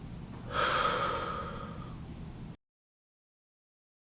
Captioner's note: exhales